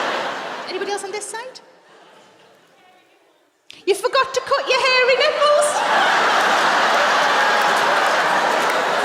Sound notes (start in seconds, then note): 5.6 laughter